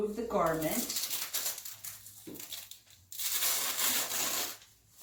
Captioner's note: velcro scratches